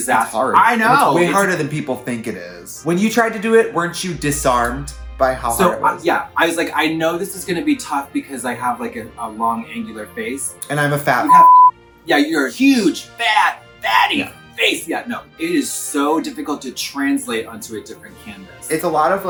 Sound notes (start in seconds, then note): 11.2 beep